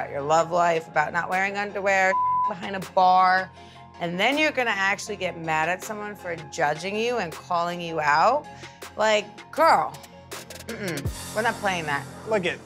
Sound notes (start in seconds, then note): 2.0 beep